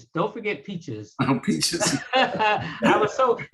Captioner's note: laughs